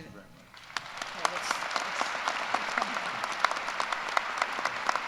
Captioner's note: applause